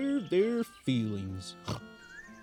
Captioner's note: he snores; caw sound